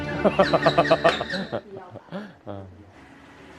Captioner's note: laughing in disbelief